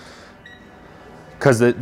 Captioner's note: remote beeps